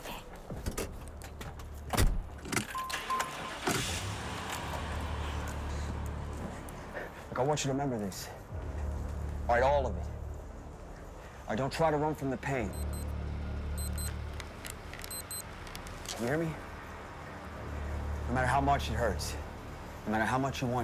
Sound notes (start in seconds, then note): 0.2 door thuds; 3.1 engine rumbling; 12.4 beeping